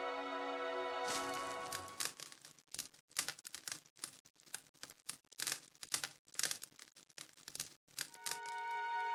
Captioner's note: hopeful orchestral music; softly crackling fire; hopeful orchestral music